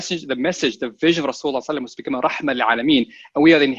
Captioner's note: speaking a foreign language